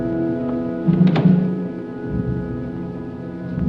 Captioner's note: door Closes